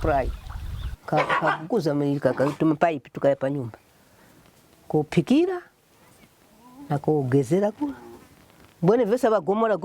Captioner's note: with running water